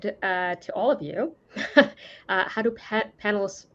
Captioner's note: laughs